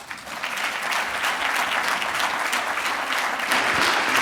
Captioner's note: audience applauding